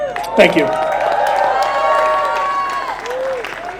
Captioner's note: applause